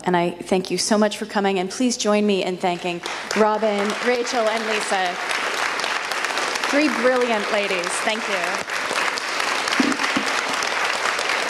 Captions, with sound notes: and I thank you so much for coming, and please join me in thanking Robin, Rachel, and Lisa. (audience applauds) Three brilliant ladies, thank you.